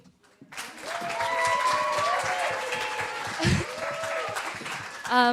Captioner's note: applause